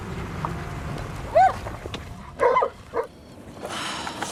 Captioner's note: dogs barking